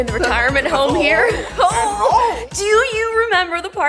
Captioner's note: imitates old woman